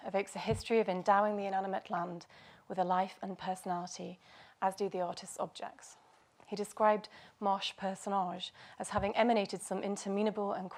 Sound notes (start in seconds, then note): none